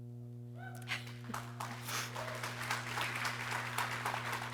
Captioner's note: people cheering